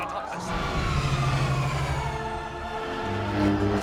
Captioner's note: spacecrafts accelerating; lightsaber humming